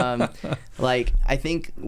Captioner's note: laughs